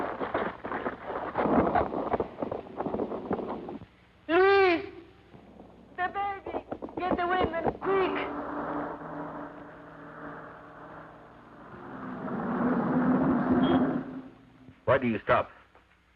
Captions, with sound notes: - Luis! The baby! Get the women, quick! (car engine revving) (car horn beeps) - Why do you stop?